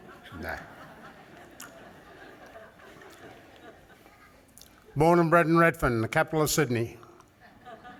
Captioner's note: laughter